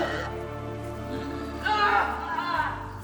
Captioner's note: screams